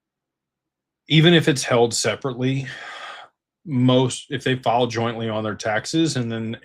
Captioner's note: sighs